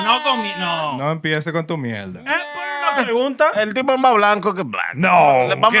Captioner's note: speaking Spanish